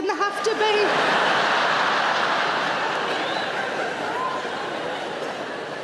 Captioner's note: audience laughing